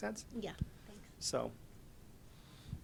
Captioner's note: voiceover